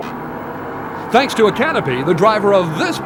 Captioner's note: boat engines roar